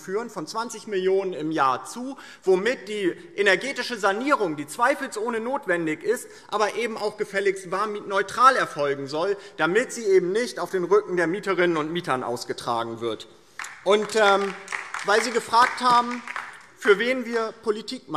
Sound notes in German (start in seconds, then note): 13.5 Beifall DIE LINKE